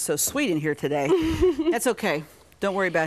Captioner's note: laughs